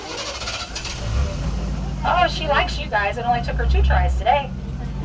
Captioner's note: engine starts